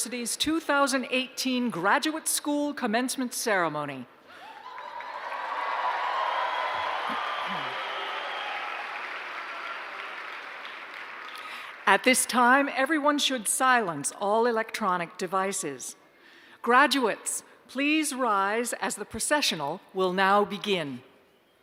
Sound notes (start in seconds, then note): 4.4 cheers and applause